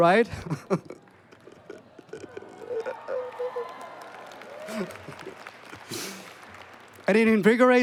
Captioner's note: cheering